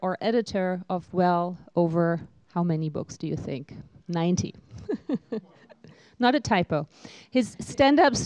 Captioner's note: laughter